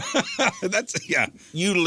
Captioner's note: laughing